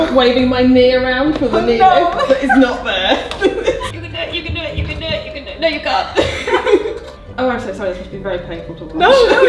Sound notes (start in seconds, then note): 1.6 laughs; 6.1 both laugh